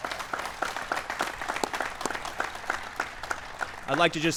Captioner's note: applause